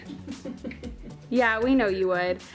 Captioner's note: laughs